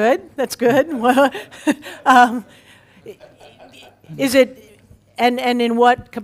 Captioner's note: laugh